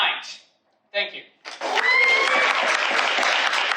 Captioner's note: audience applauds